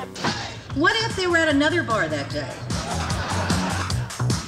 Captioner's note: laughter